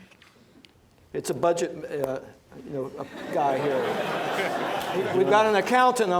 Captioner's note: laughter